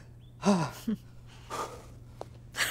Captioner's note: Sigh